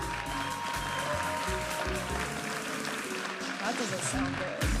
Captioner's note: audience applauding and cheering